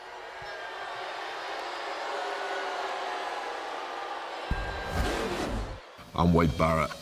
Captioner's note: crowd chatter